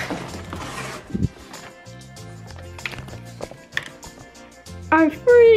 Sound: cardboard shuffling

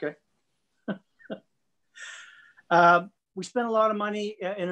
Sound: laughs

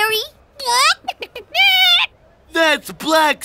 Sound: clucking

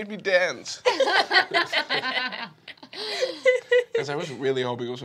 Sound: laughing

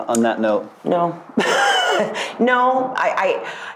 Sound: laughs

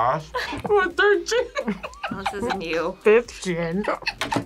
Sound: laughs

